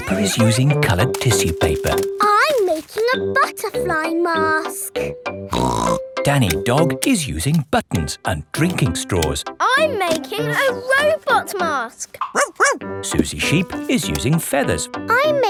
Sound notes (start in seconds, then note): 5.5 snorts; 12.3 barks